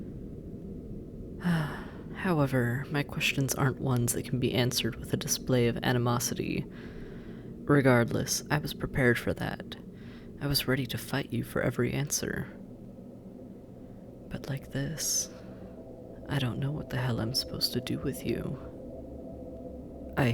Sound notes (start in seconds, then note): 1.4 sigh